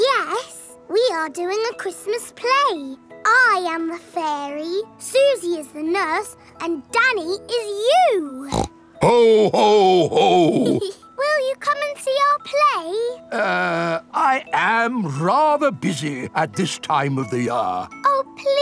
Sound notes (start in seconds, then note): 8.4 snorts; 9.0 giggles